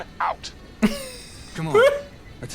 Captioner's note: laughs